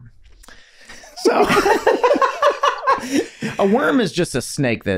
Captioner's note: group laughing